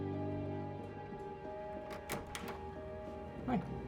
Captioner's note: door opens